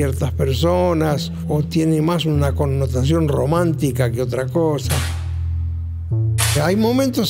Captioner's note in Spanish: sonido de metal